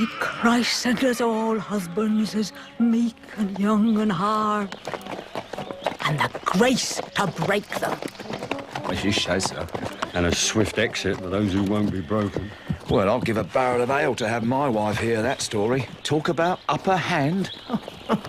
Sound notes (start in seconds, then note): 17.6 laughs